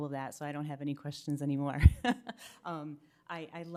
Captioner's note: laughs